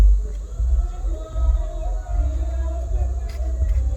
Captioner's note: rowdy cheering